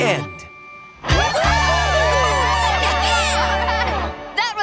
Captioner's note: cheering